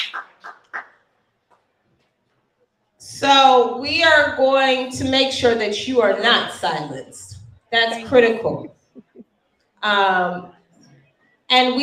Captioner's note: applause